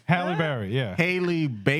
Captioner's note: speaking Spanish